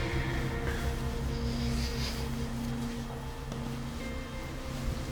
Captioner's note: sleeping bag rustles